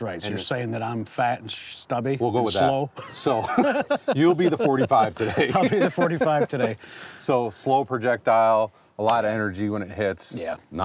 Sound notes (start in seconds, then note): 3.0 laughs